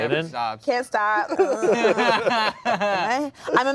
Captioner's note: everyone laughs